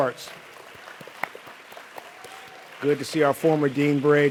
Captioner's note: audience applauds